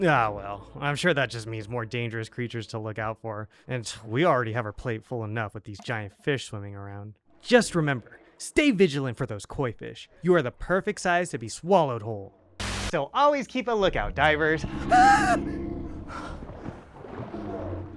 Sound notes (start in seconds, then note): 12.6 camera Static